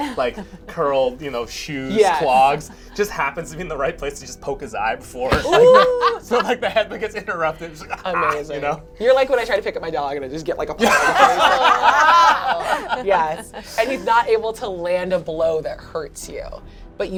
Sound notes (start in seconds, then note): 10.8 all laugh